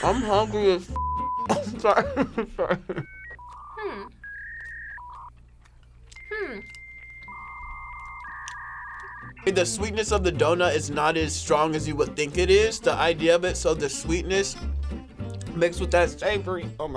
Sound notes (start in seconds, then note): 1.4 chuckles; 3.0 beep; 3.0 dial-up whirring